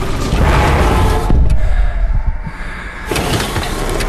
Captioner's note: gravel crunching; metal screeching; man breathing audibly; metal squeaking